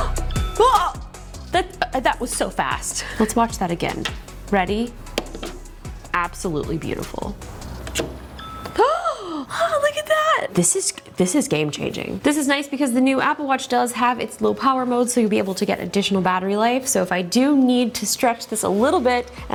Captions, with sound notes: (gasps) (phone beeps) (exclaims) - That was so fast. Let's watch that again. Ready? Absolutely beautiful. (phone beeps) (exclaims) Look at that! This is game changing. This is nice because the new Apple Watch does have its Low Power Mode so you'll be able to get additional battery life. So if I do need to stretch this a little bit,